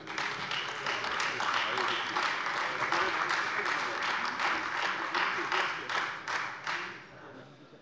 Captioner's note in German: Beifall Freie Demokraten und AfD